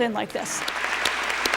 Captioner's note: applause